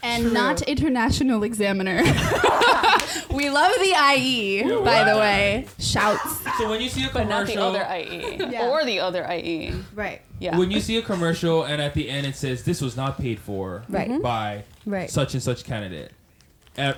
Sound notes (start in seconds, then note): 2.0 laughing; 6.7 chattering